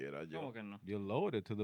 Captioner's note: speaking Spanish